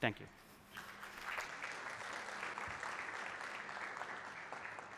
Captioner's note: applause